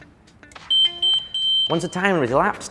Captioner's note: timer beeps